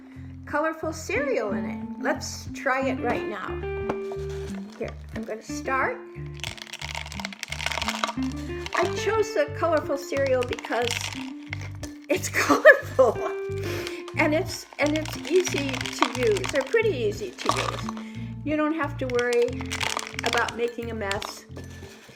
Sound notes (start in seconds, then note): 6.3 sound of cereal hitting the inside of the bottle; 12.3 laughs